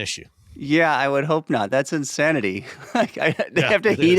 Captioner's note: laughs